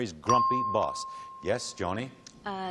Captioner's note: ping